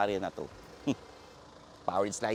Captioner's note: scoffs